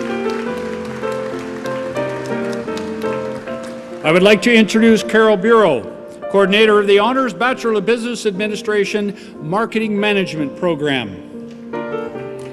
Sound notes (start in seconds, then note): 0.0 applause